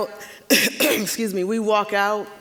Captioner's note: coughing